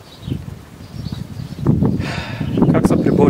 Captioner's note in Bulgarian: Въздишане